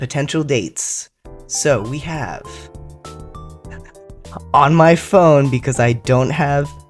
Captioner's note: laugh